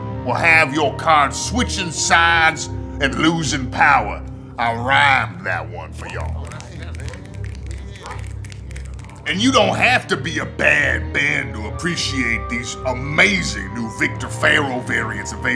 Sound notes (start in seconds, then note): 6.0 all click fingers in agreement